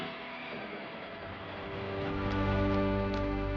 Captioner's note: audience cheering; slow, gentle music